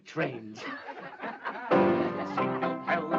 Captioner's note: laughing